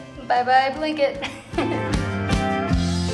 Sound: laughing; country music

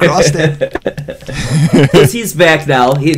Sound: laughter

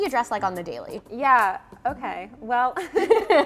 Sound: chuckles

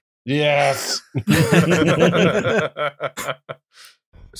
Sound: laughter

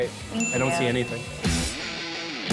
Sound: chimes

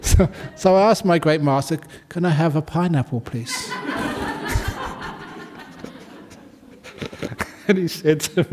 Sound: laughter

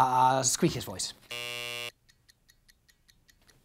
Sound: buzzer buzzing; clock ticking

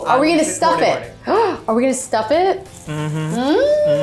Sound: gasps; mmhmming

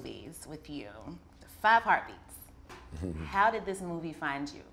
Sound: chuckles

